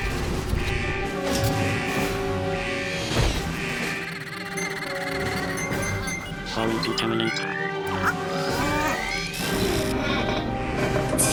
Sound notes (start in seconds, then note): 3.7 beeping